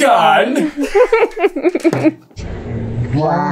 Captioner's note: laughter